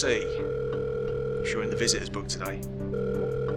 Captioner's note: phone dialing